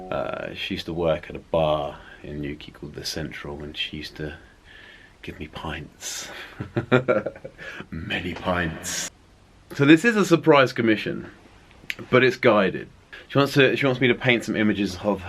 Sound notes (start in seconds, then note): 6.3 laughs